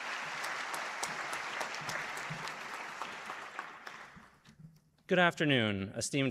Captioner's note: applause